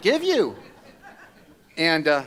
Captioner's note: laughter